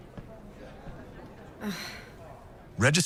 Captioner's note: deep sigh